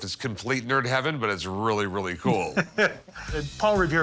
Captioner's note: laughs